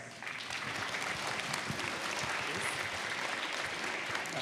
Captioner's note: applause